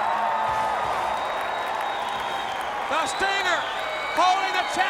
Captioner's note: crowd cheering